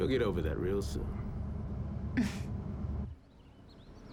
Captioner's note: chuckles